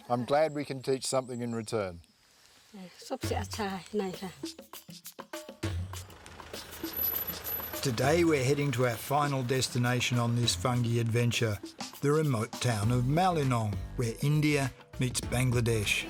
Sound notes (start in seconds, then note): 5.6 engine sputtering; 5.9 brakes squeal